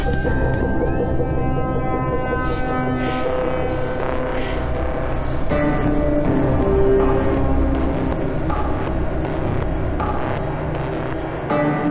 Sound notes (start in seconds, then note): 0.3 dramatic music continues; 2.2 heavy breathing